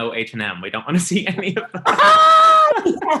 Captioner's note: laughs